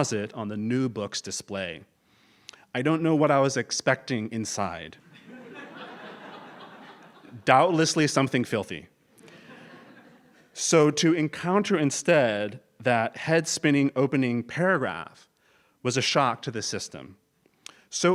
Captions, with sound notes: the new book's display. I don't know what I was expecting inside. >> [LAUGH] >> Doubtlessly something filthy. So to encounter instead that head spinning opening paragraph was a shock to the system.